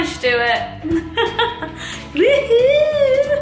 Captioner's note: laughs